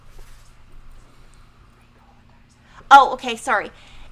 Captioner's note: someone whispering